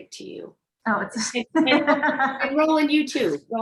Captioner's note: laughs